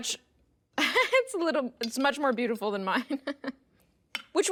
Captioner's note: laughing